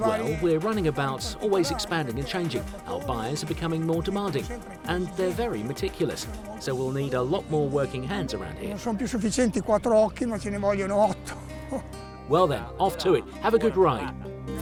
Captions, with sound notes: Well, we're running about, always expanding and changing. Our buyers are becoming more demanding and they're very meticulous so we'll need a lot more working hands around here. (speaks Italian) Well then, off to it, have a good ride.